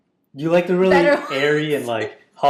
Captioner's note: laughs